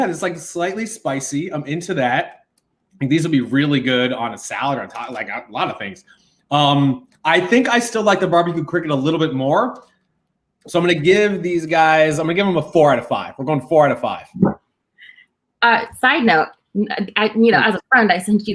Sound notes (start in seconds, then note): none